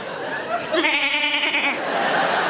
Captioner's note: audience laughs; Sarah bleats; audience laughs